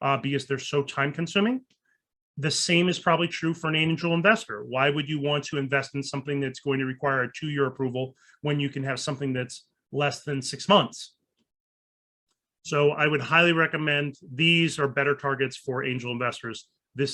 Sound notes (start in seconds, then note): none